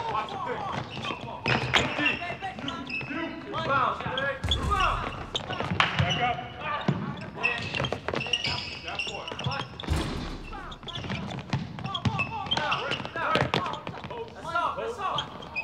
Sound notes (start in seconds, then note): 0.1 players calling out; 6.1 coach claps hands; 7.9 players calling out; 7.9 sneakers squeaking